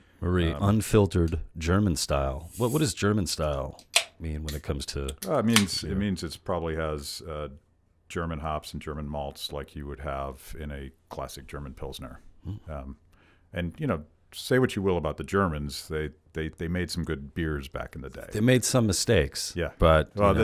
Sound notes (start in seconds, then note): 3.9 can pops